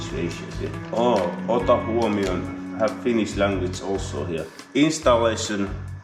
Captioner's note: reading Finnish